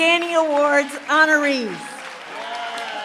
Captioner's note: applause, cheering